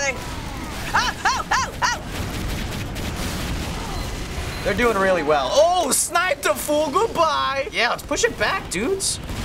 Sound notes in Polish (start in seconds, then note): 2.0 strzały